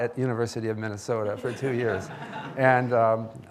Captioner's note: audience laughing